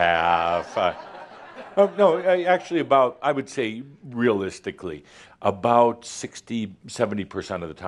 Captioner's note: laughter